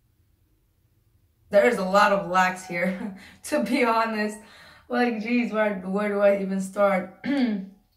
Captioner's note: clears throat